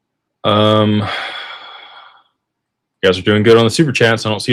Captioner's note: sighs